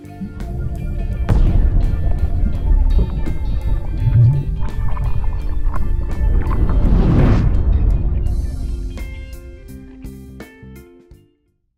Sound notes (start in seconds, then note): 0.1 funky music; 3.3 water gurgling